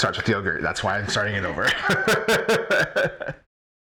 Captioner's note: laughs